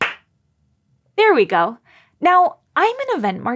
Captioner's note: claps three time; claps two times